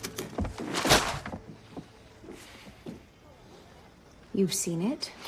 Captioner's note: typing; slams paper down